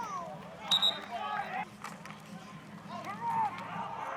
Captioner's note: whistle blowing